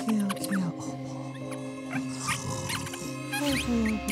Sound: chittering

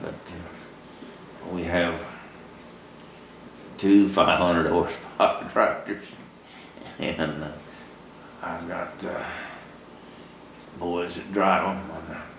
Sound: laughs

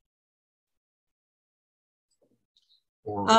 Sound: silence

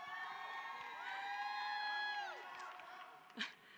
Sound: cheering

